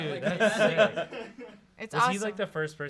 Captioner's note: laugh